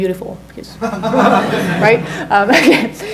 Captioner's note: audience laughs